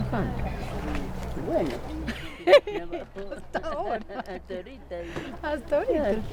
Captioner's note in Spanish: risas